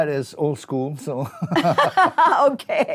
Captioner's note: laughter